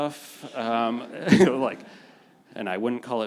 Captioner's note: panelists and audience laughing